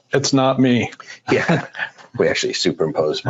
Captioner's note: laughing